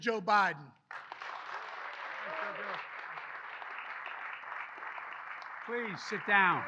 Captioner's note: applause